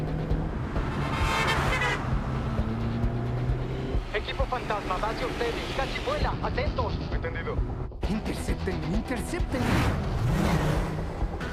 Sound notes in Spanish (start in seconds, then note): none